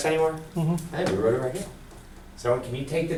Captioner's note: voiceover